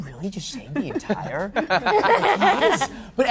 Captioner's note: laughter